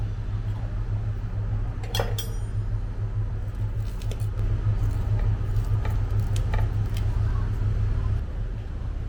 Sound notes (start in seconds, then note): 5.6 snip snip snip snip